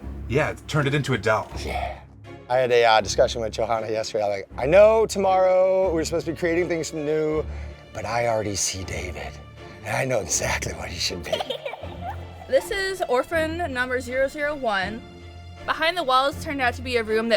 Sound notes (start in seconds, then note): 11.2 creepy giggle